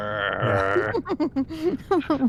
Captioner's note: laughter